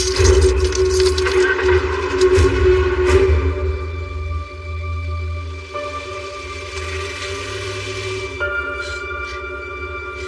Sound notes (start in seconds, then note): 0.9 engine revs